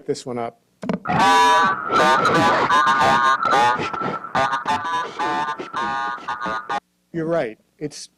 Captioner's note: playing recorded statement and audio